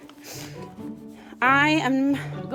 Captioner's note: sniffing